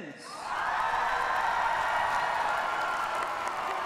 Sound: cheers and applause

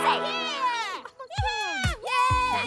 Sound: cheering

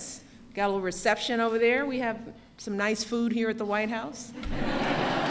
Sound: laughter

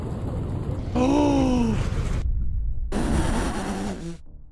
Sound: gasps

